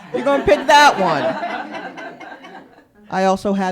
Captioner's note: laughter